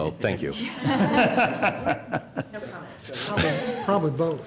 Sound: laughter

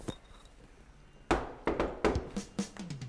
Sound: knock, knock

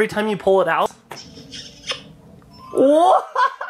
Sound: kissy noise

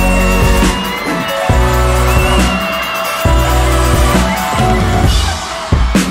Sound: audience continues cheering

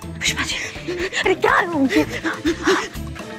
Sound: breathing heavily

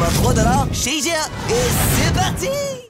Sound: son de vaisseau

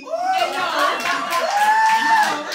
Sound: audience cheers and laughs

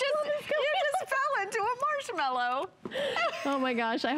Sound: laughter; laughter

